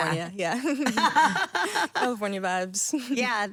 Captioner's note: Stephanie laughing; laughing